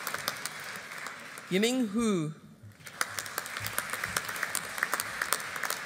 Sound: audience applauding

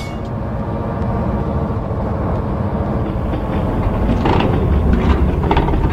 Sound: train wheels clicking

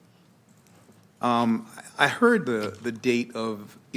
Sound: none

